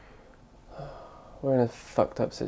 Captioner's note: sighs